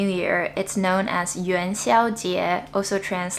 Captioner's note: speaking Chinese